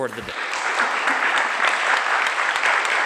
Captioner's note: applause